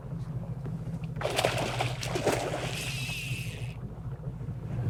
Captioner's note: fish splashing